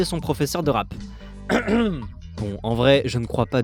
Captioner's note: cough